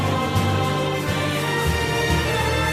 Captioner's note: none